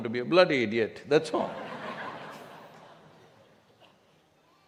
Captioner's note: laughter